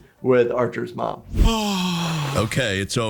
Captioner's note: Trexler sighs in relief